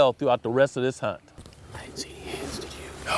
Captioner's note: whispering